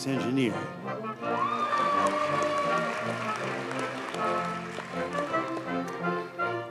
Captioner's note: audience cheers and applauds